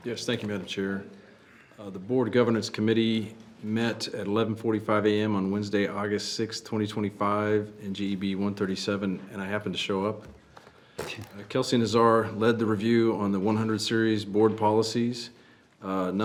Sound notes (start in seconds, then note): none